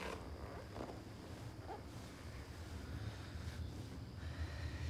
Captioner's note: leather creaking